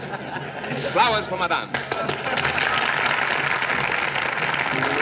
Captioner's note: applause